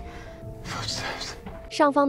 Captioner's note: footsteps